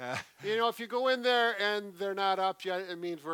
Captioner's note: laughing